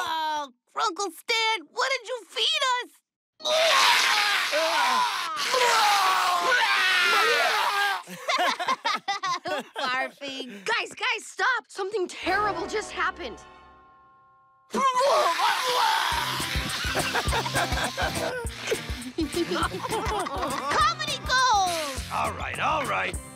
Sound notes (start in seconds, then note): 5.8 both "retching"; 8.0 both laughing; 14.7 retching; 16.6 laughing